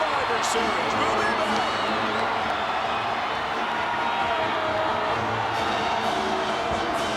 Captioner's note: crowd cheering